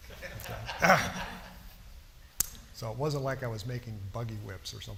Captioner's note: laughter